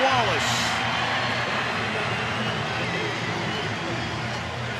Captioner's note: crowd cheering